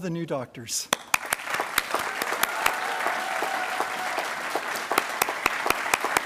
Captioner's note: attendees applauding and cheering